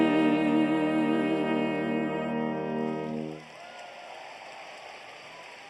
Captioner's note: applause